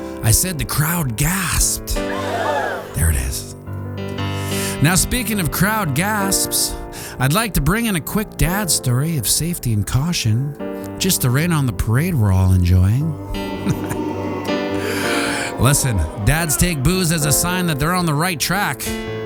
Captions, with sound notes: I said the crowd gasped. (gasp) There it is. Now, speaking of crowd gasps, I'd like to bring in a quick dad's story of safety and caution just to rain on the parade we're all enjoying. (boooooooo) Listen. Dads take boos as a sign that they're on the right track.